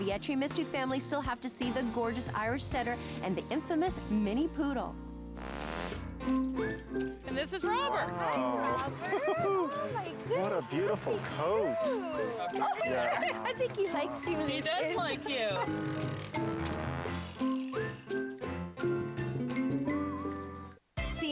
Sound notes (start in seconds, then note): 11.7 chuckling